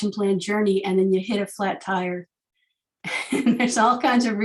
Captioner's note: laughing